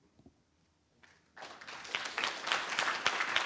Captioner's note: applause